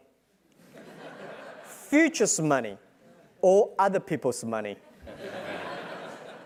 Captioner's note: laugh